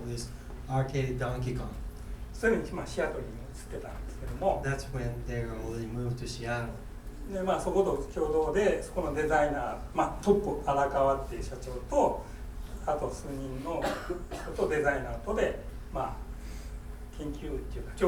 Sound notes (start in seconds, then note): 2.5 speaking in foreign language; 7.4 speaking in foreign language; 13.7 coughing